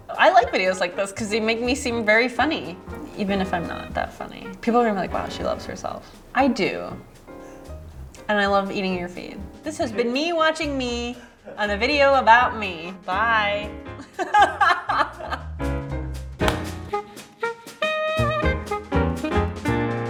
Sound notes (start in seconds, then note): 14.2 laughing; 16.6 jazzy music